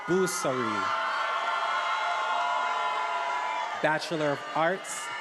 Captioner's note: attendees applauding and cheering